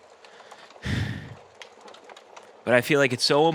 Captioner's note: sighs sadly